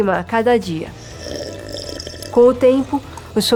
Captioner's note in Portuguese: sugando